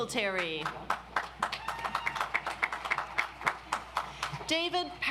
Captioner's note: audience applauds